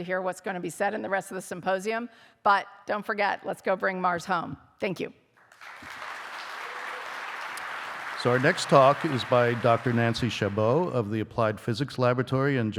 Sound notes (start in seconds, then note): 5.4 audience applauding